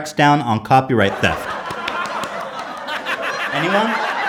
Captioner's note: laughter